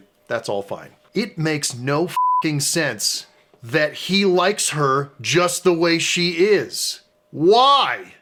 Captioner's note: beeping